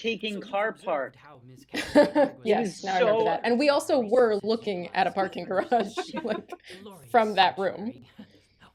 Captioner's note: laughter